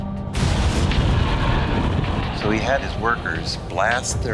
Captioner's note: explosion